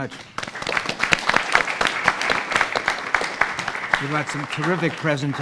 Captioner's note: audience applauding